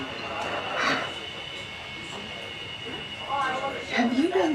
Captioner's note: patrons chattering